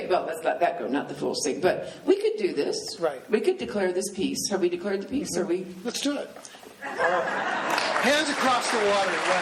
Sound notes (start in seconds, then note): 6.9 laughing; 7.6 applause